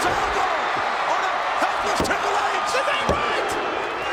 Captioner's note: hand pounding